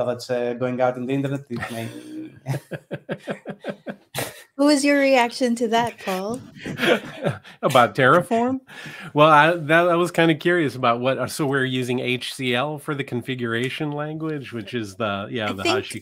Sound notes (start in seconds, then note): 1.5 chuckling